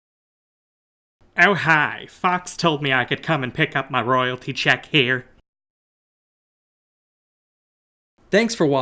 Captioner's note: in the voice of roger smith from american dad